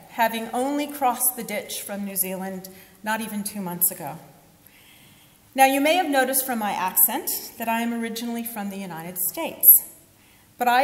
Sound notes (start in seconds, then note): none